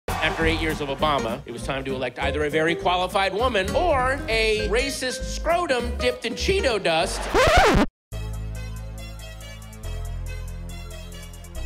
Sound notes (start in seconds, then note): 7.1 record scratch